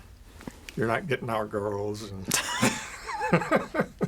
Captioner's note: both laugh